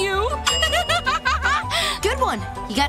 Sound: laughing

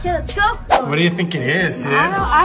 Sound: camera swipes

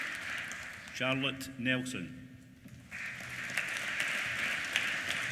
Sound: applause

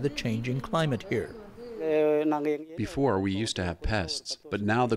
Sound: through translator

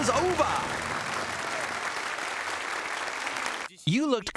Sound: applause

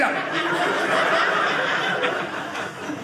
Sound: audience laughing

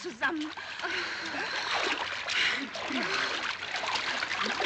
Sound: women groaning

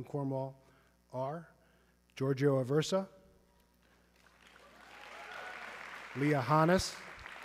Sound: audience clapping

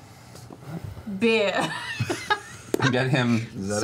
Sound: laughs

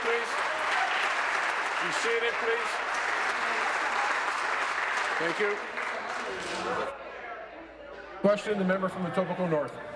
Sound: applause

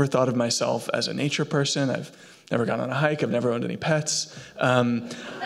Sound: laughter

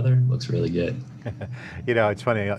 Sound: laughing

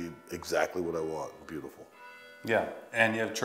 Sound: bells chiming

